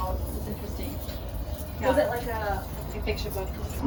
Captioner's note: chitter chatter